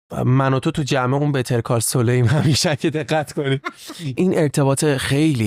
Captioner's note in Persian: خنده